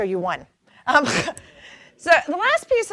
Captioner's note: chuckles